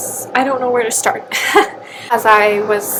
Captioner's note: laughs